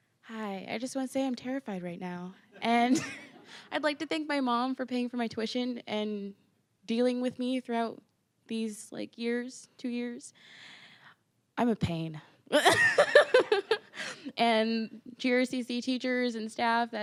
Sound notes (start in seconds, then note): 2.9 all laughing; 12.6 laughing